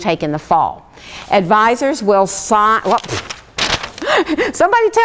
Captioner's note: laughs